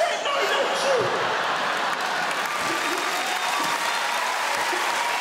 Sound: audience cheering

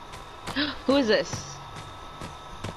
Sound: gasp

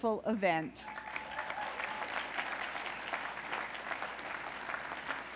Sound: applause

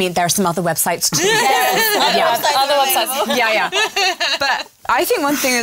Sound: laughter

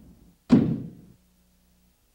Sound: thump

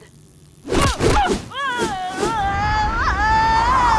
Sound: whack; helicopter like noise; shouting in concern

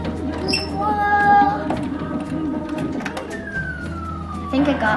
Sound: sounds of the machine

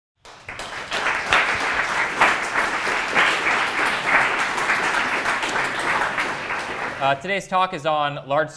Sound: crowd clapping

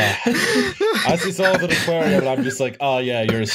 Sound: laughter

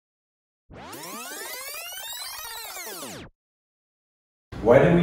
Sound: vinyl rewinding sound

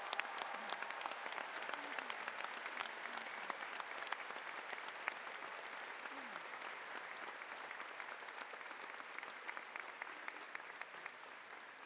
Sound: cheers and Applause

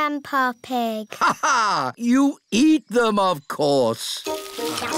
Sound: laughs

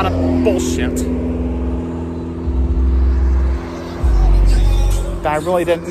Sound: Traffic on Paulding Road

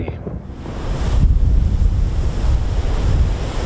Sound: wind whooshing

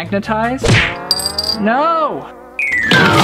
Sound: clinking

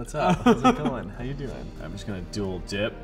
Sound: laughs

